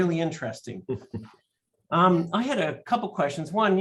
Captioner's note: laughter